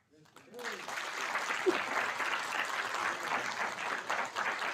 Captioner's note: audience applauding